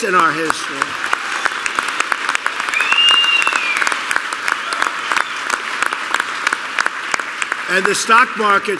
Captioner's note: applause